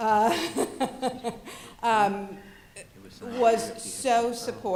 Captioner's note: laughs